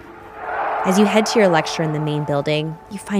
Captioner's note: shouting in German